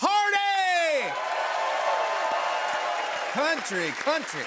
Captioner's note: cheers and applause